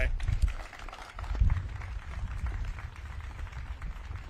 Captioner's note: audience claps